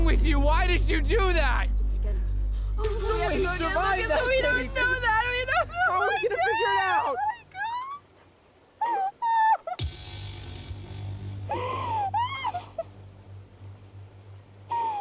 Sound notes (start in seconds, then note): 2.8 crying